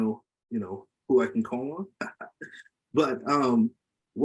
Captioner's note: laughs